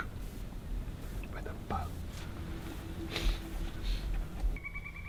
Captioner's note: sniffing; bird calling